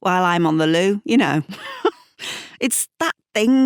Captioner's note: laughs